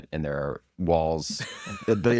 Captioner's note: laughs